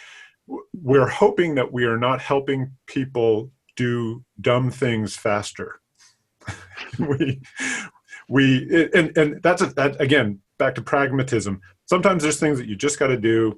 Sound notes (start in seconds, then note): 6.4 laughing